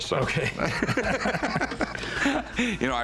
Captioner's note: laughter